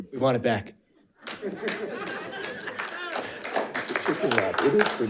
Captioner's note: audience laughing